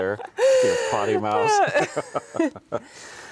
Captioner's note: both chuckling